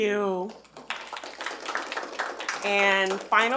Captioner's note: attendees clap